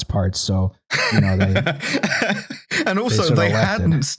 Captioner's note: laughs